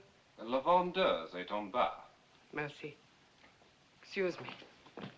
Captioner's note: speaking French